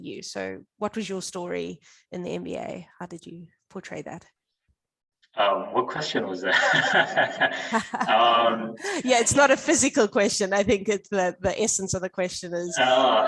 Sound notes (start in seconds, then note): 7.3 guffaws; 8.3 both chuckling